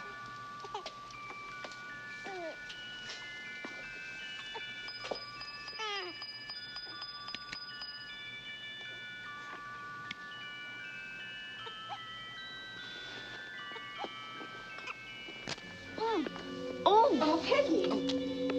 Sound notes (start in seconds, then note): 15.4 glass cracks